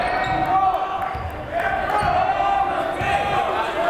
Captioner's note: yelling